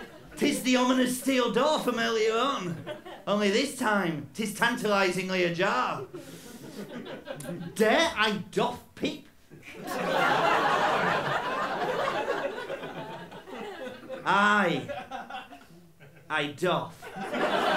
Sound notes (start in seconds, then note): 0.0 laughter; 9.6 laughter